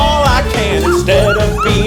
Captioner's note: cries